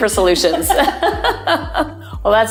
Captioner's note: women laughing